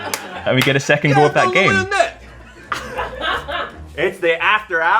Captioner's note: laughter; laughter